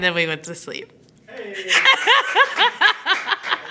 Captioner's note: laughing; clapping